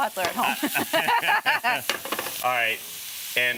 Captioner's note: laughing